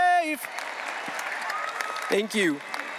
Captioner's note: audience applauding